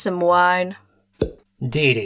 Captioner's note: cork pops